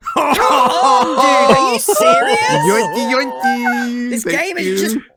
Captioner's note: victorious laugh